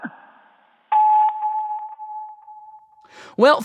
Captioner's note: sfx: beep, end of messages